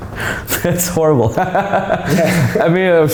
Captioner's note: laughing